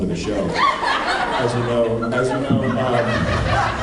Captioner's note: laughs